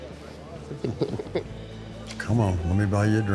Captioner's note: laughs